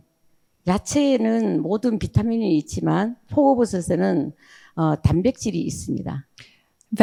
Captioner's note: speaking in foreign language